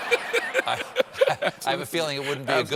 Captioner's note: laughter